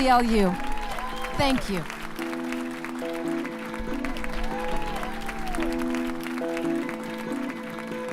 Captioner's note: applause